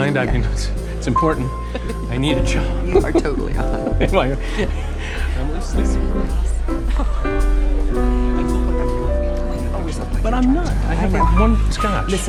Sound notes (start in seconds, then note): 5.1 whispered chattering